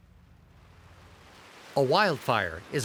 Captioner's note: indistinct rustling